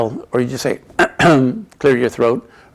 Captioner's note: clears throat